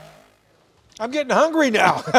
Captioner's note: laughing